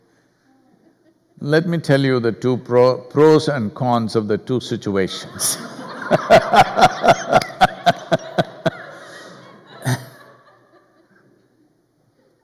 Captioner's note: laughter